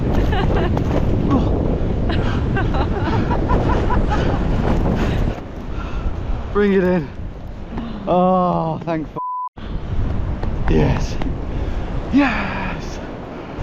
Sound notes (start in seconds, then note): 0.1 laughing; 2.0 laughing; 9.2 beep